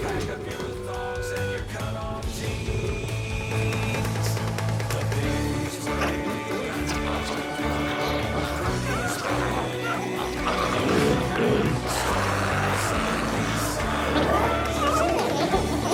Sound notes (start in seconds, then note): 7.3 glowzies growling